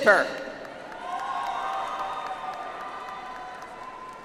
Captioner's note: audience applauds